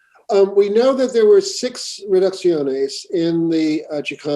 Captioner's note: spanish